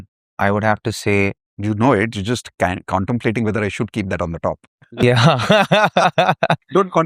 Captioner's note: laughter